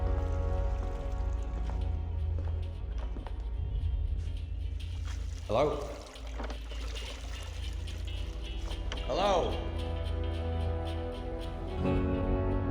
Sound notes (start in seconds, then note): 0.0 MUFFLED MUSIC</i> <i> IN HEADPHONES; 4.4 water sloshing; 10.7 MUFFLED MUSIC</i> <i> IN HEADPHONES